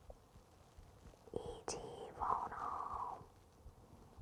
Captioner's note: whispers